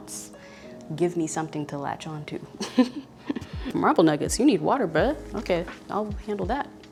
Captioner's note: laughs